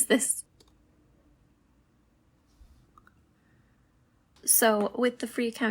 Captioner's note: silence